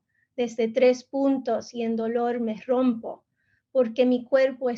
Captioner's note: speaking in Spanish